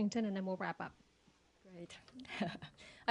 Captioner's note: laughter